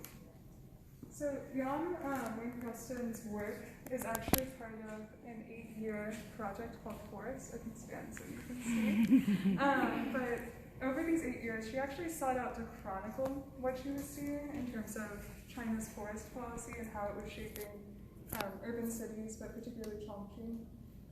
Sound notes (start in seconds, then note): 8.6 laughing behind camera